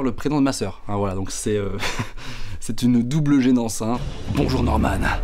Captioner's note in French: rire